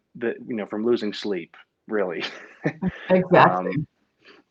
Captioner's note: laughs